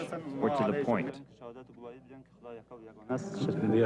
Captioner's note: man speaking in foreign language